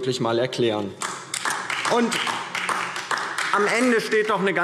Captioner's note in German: Beifall DIE LINKE